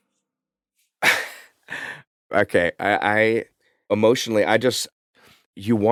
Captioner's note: chuckles